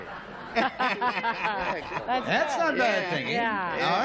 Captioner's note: laughter